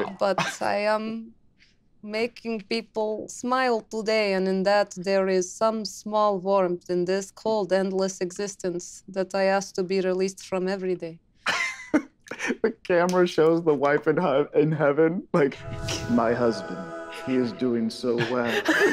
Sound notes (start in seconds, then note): 12.2 Carlos chuckles; 18.1 group laughing